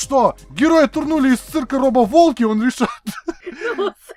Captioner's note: chuckles